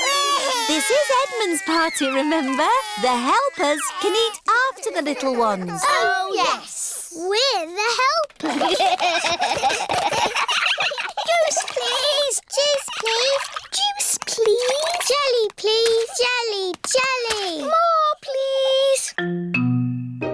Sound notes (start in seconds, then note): 0.0 babies crying; 8.4 all giggling